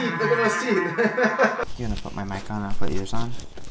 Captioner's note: laughing